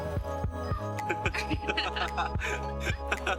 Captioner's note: laughs